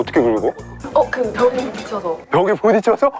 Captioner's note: bump, bump, bump